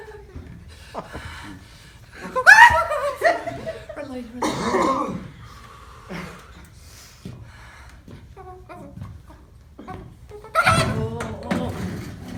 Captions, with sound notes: (Excited clucking) Red light... Red light... - (Clucking) - Oh oh...